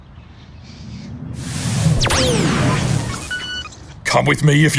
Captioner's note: electronic whooshing